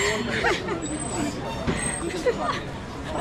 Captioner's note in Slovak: smiech